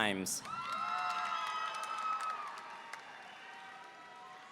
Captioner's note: audience cheering